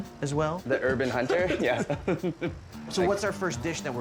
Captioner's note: laughs